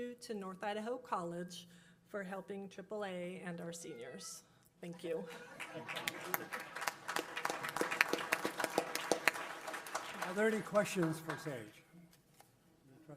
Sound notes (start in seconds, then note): 4.0 robotic cat meows; 5.3 applause